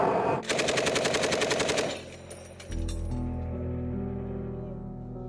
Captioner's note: machine gun firing; somber music